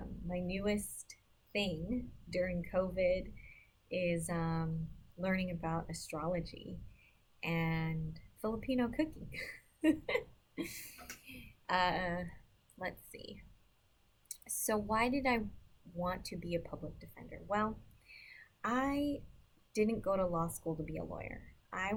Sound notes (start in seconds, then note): 9.8 chuckling